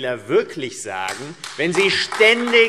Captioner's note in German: Beifall AfD